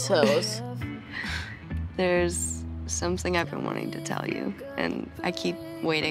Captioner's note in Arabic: يضحك